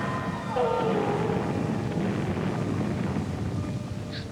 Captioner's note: explosions booming